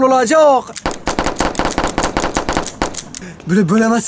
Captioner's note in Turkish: Silah ateşleme sesleri